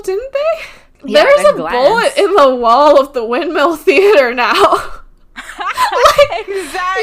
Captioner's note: both laughing